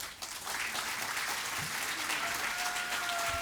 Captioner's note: applause